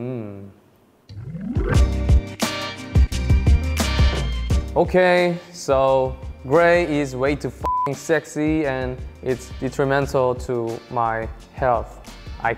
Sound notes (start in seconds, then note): 1.1 upbeat music; 7.6 beep